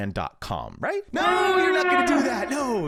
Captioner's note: alarm blaring